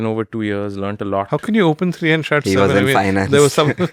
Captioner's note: laughs